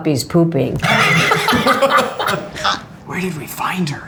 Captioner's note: all laugh